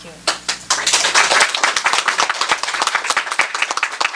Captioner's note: applause